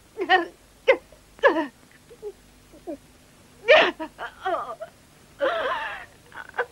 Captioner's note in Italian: la signora marchetti piange